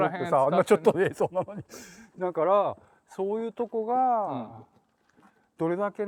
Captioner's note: laugh